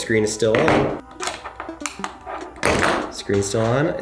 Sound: Trezor's exterior clicking

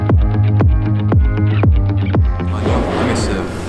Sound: tearful

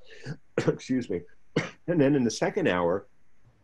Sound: coughs

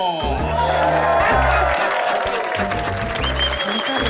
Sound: applause

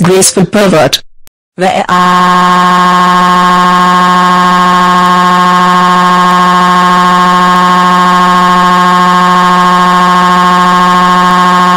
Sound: crying

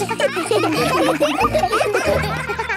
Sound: children laughing

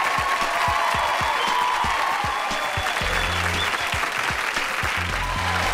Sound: applause

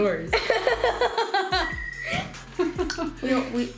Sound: ball whistling

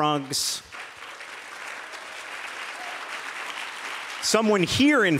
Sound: applause

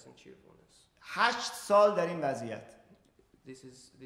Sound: speaking in farsi

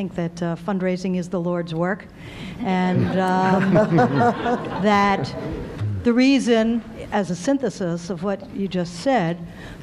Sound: laughter

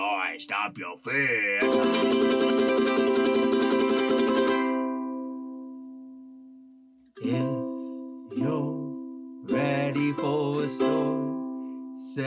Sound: silly noises

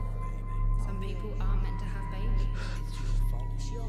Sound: distant voice

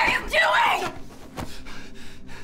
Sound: screams; breathes heavily

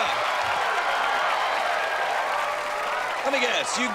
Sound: cheers and applause

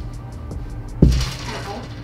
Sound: bonks elbow

